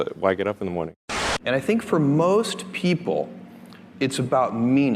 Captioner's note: static